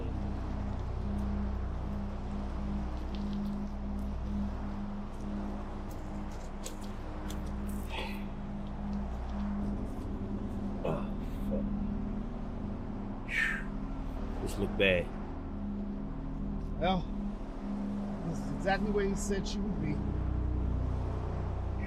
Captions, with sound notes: (sound of crunching under feet) - Oh shit. (exhales) This looks bad. - Well this is exactly where you said she would be.